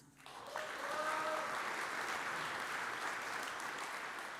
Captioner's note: audience applauds